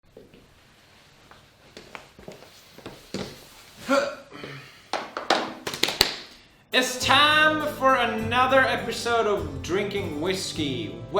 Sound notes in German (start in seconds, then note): 0.0 Schritte; 5.7 klätscht